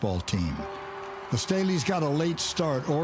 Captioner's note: crowd cheers